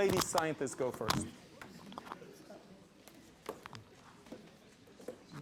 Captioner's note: light audience chatter